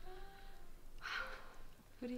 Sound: sigh

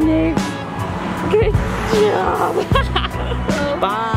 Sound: laughing

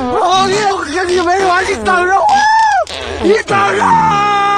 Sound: talking nonsense

